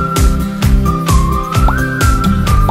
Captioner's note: pop